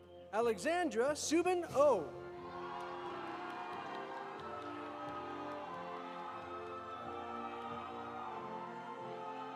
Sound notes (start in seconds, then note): 2.4 audience applauding; 2.4 audience cheering